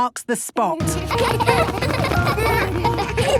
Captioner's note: laughter